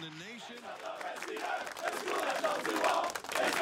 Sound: chanting

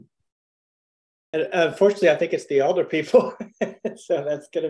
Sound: laughs

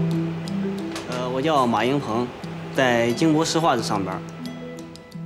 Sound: speaking Chinese

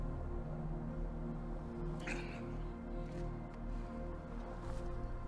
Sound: Eddie grunts

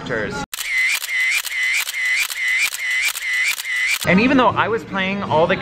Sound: camera shutter clicking

